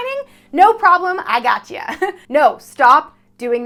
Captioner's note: chuckles